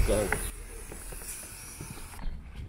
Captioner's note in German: zischen